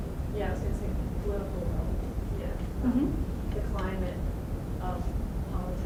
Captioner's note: voiceover